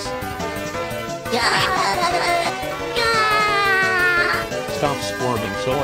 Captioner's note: Noo-Loo Screaming